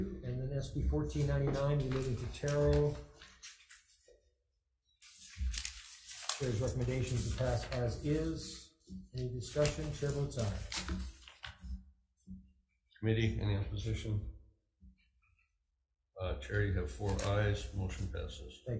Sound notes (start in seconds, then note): 5.0 papers rustling